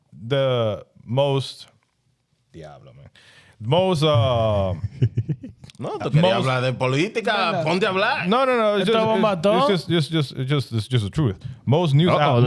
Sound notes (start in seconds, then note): 3.6 speaking In Foreign Language; 4.2 laughing